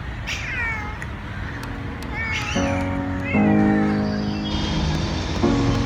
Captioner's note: cat meows